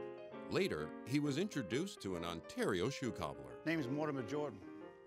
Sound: voiceover

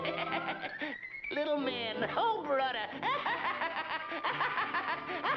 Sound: laughs

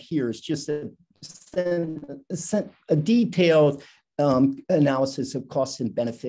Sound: static

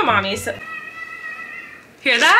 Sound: kid shouting

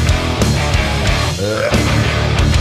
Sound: burp

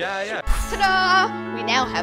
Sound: poof

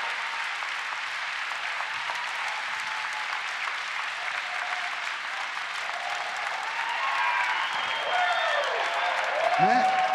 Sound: applause; cheering and APPLAUSE

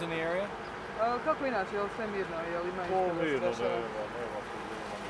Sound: speaking in Bosnian

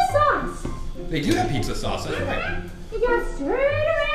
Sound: voiceover

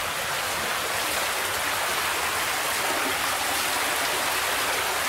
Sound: water rushing

